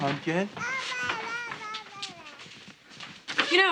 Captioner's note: Janey babbles